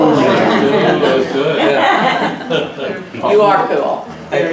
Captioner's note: laughs